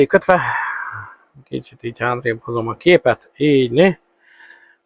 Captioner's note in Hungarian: sóhajtás